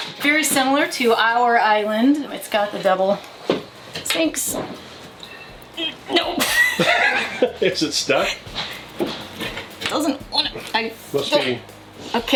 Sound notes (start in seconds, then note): 6.3 both laughing